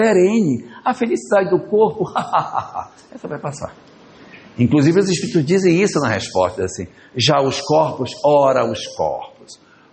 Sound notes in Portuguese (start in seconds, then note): 2.1 risadas